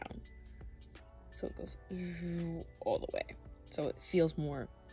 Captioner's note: explanatory noises